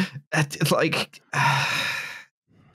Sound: sighs

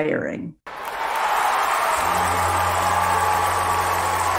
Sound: applause

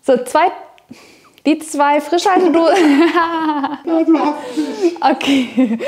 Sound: both laughing

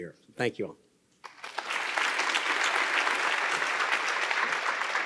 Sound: audience applauding

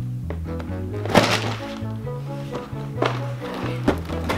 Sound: air whooshing; box thuds

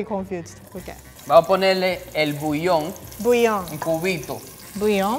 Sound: speaking in foreign language

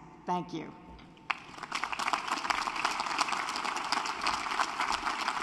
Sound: applause

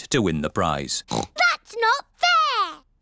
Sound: oinks

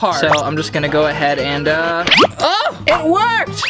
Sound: popping

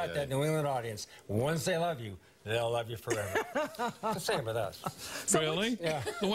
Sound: laughter

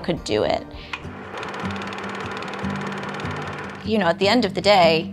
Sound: movie projector whirring

